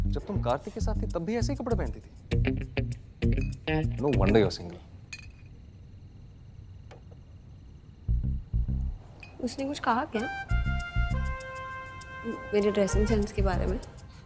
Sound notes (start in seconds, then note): none